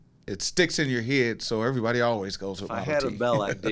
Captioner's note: laughs